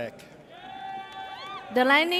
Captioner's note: audience cheers